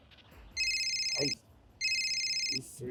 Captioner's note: phone ringing